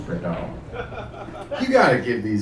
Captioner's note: guy laughing